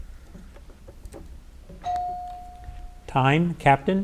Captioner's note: bell dings